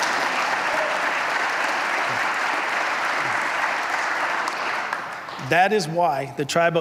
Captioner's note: applause